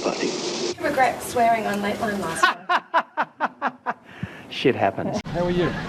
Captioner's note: laughs